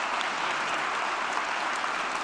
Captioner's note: applause